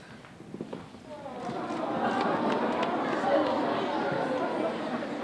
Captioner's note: audience aahs